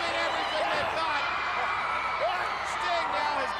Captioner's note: crowd cheering